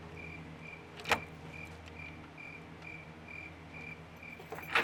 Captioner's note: keys clinking